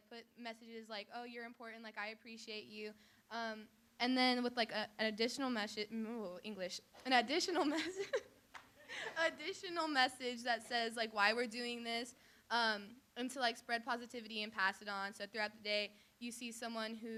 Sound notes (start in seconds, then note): 8.8 laughs